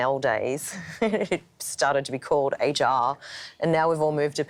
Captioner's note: laughs